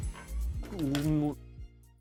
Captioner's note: groans